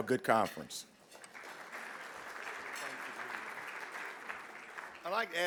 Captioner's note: audience clapping